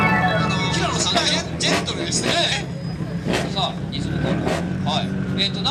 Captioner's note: exhaust noise competition!